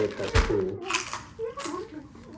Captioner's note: crunching